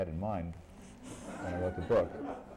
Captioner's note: laughter